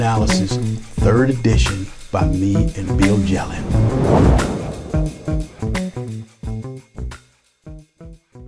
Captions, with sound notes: 3rd edition, by me and Bill Jelen. [explosion]